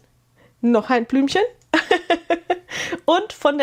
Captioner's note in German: gelächter